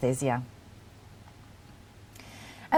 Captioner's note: pause